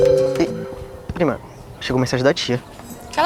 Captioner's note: notification